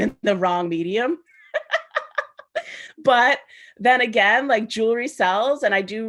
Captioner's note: laughs